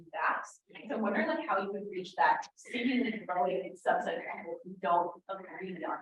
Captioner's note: audio blurs